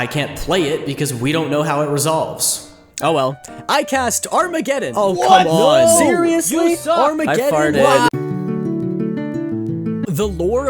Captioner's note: collective shouts of rage and fury